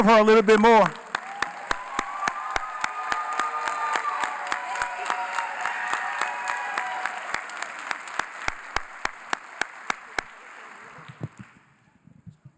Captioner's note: cheering & Applause